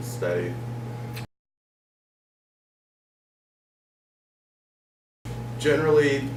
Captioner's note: silence